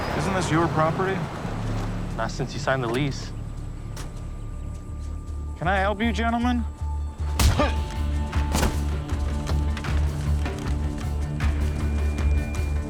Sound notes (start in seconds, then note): 2.5 truck doors clicking; 7.3 fist thudding